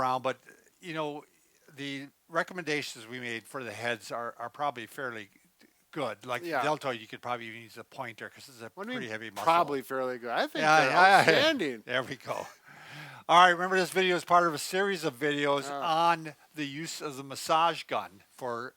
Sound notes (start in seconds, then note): 10.6 laughs